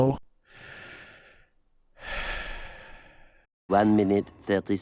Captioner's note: sigh